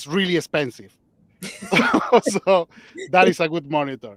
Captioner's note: laughs